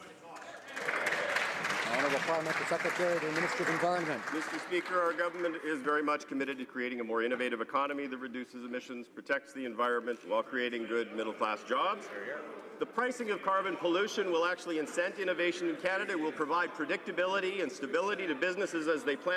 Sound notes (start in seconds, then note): 6.3 some Applause